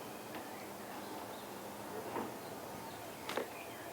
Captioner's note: birds chirping